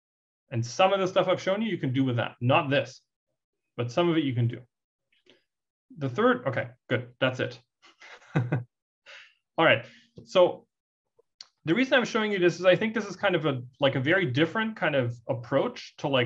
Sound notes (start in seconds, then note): 8.0 laugh